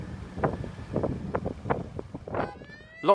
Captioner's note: siren starts